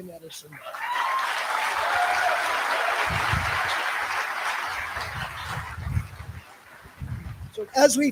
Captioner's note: applause